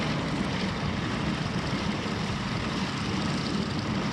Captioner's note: wind howling